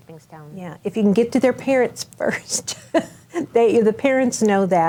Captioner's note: chuckles